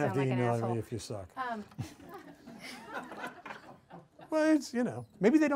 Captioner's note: audience laughs